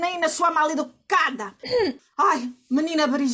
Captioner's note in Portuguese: d.maria das dores aclara a voz